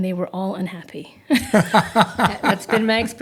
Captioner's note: laughter